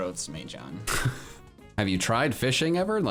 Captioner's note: chuckles